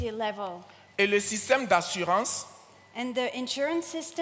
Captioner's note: continues in French